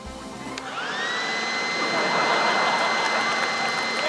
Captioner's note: leaf blower whirrs; laughter, applause